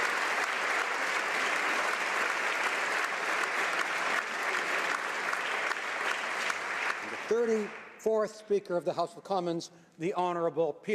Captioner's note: applause